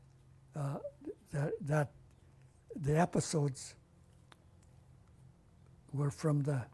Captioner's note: pauses for 3 seconds; pauses for 3 seconds